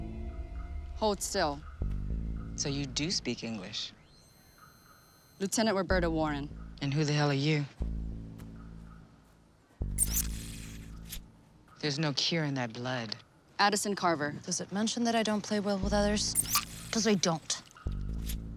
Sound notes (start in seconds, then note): 3.5 device trilling; 9.9 trilling